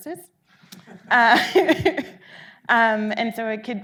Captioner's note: audience laughing